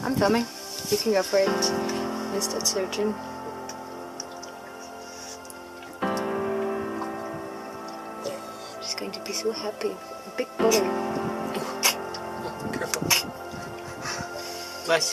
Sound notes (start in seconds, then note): 11.6 turtle sneezes